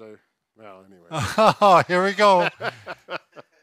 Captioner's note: laughs